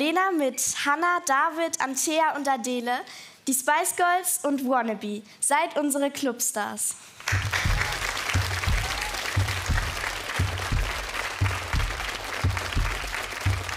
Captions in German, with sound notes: Jetzt kommt Magdalena mit Hanna, David, Antea und Adele. Die Spice Girls und "Wannabe". Seid unsere Clubstars. (Applaus) (Herzschlag)